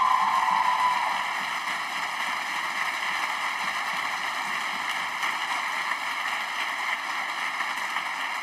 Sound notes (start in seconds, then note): 2.2 cheers and applause